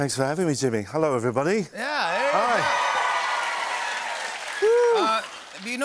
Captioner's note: cheers and applause